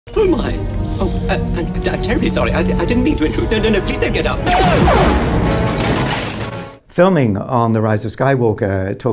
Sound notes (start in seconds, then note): 4.6 blaster whizzes